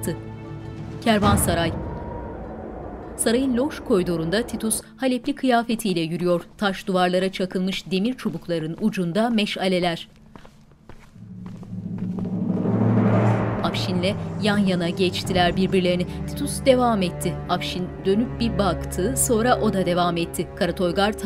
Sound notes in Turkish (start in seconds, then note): 5.1 Ayak sesleri; 11.6 Müzik - Vurmalılar; 15.2 Müzik - Gerilim